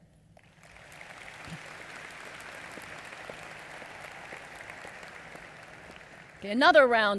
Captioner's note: applause